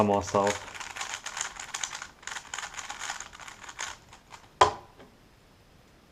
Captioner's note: cube noises